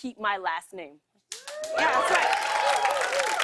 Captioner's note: cheers and applause